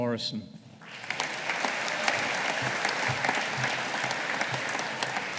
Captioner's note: audience applauding